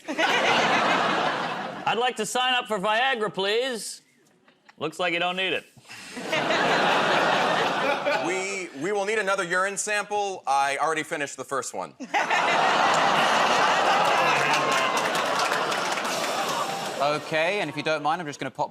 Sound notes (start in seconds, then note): 0.0 laughter; 14.4 audience "Oh"s